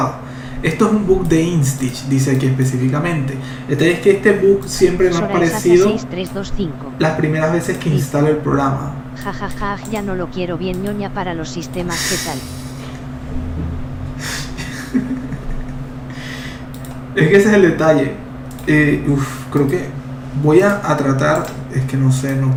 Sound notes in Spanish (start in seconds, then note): 14.2 risas